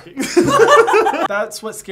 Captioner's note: both laughing